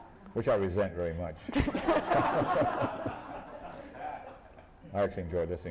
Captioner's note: laughter